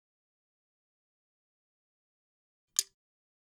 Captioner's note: pause